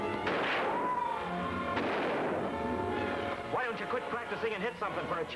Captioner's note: gunshots bang